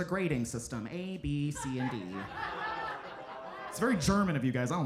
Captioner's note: audience laughing